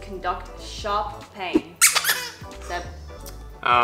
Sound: squeaks

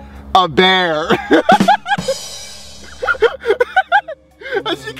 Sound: laughter

